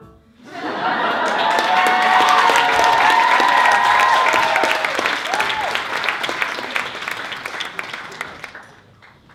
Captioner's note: applause